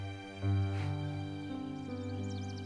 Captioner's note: Chuckles